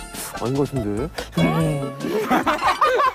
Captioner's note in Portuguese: Hum